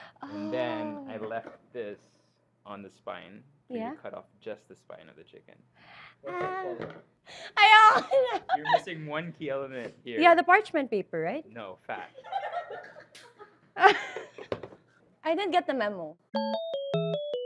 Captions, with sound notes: And then, I left this on the spine, so you cut off just the spine of the chicken. - Ah. No more. - You're missing one key element here. - Yeah. The parchment paper, right? - No. Fat. (laughs) - I didn't get the memo.